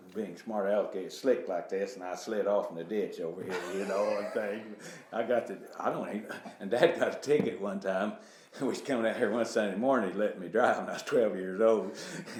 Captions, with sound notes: being smart elicky and slick like this and I slid off in the ditch over here. (laughing) And dad got to take it one time. We was coming out here one Sunday morning. He let me drive. I was 12 years old.